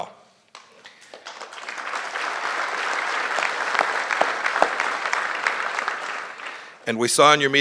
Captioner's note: applause